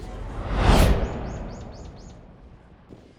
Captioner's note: Thanos-like sound effect